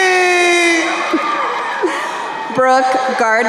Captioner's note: crowd cheering